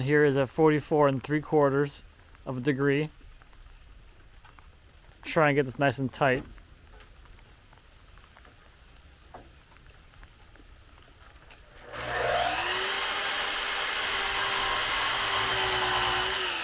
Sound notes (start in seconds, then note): 11.6 saw buzzing